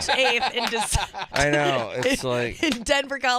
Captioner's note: laughing